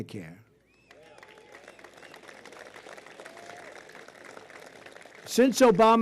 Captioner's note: applause